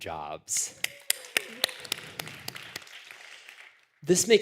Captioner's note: applause